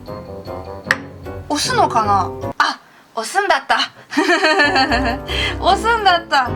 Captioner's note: laugh